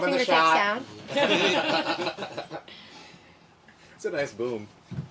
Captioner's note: everyone laughing